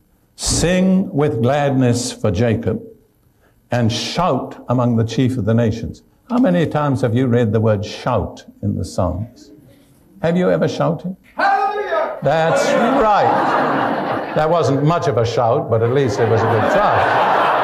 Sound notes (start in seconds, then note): 11.4 someone shouts Hallelujah!